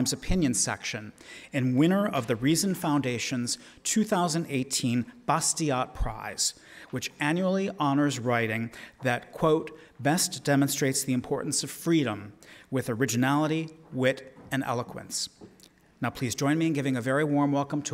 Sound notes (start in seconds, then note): none